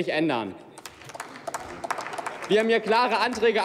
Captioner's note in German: Applaus